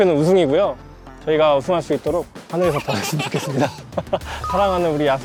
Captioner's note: laughs